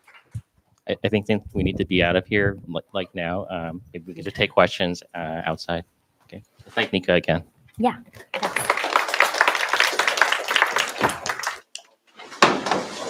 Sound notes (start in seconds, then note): 8.2 applause